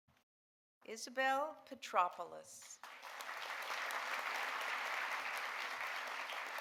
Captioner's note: audience applauding